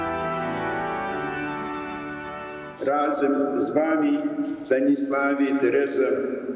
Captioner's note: officiant speaking foreign language